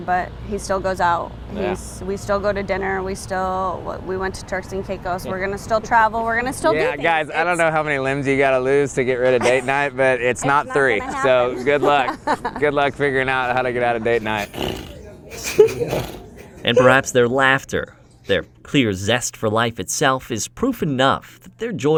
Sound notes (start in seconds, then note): 14.4 raspberrying; 15.2 laughing